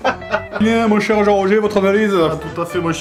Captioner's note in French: rires; voix commentateur